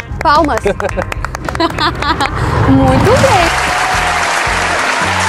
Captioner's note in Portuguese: aplausos